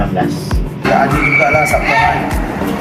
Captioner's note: screaming hysterically